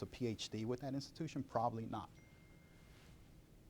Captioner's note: cell phone dinging